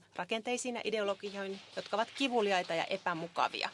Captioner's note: applause